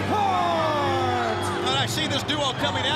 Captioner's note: crowd cheering